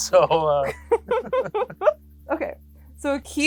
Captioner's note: both laughing